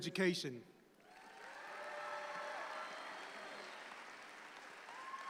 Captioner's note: audience applauds